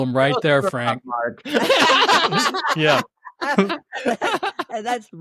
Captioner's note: laughter